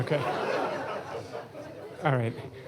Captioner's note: laughter